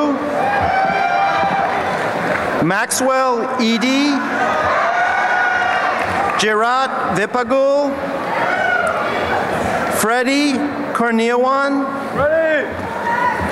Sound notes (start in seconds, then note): 1.6 applause; 3.4 cheering